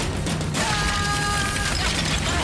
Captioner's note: screaming